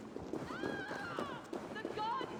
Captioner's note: scream